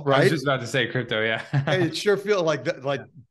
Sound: laughes

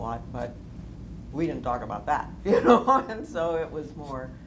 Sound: laughs

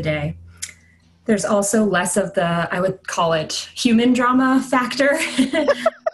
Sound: laughter

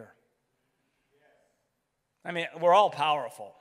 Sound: crowd

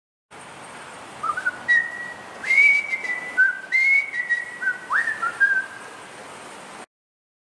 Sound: Whistling "Andy Griffith" theme song

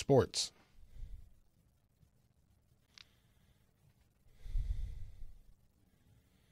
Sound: no sound

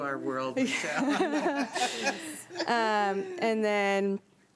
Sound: laughing

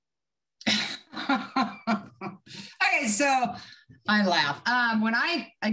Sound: laughs

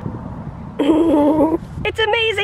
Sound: chuckling

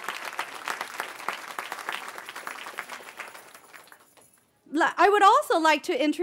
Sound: cheering

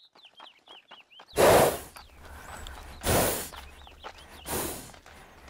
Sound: heavy breathing

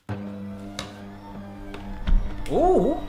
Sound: machine whirring

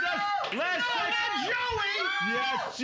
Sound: audience cheering

